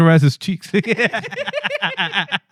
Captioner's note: laughing